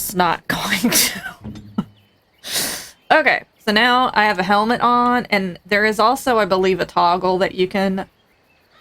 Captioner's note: laughs